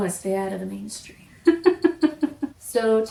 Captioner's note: adorable laughter